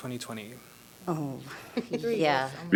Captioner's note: laughter